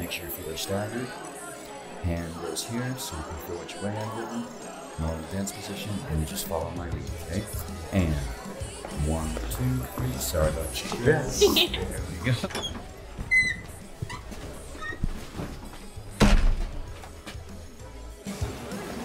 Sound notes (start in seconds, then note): 11.3 Lena laughing; 13.5 upbeat background music